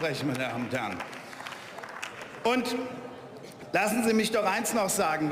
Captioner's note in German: Beifall